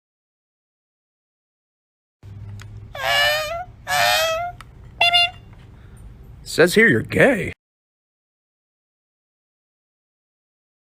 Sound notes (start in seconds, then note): 3.0 mimicking scanner sounds; 5.0 beep beep!